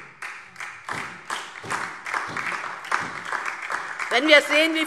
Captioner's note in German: Beifall DIE LINKE und vereinzelt SPD